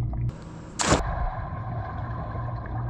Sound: pool gurgles; water splashes

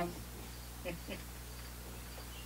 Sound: chuckles

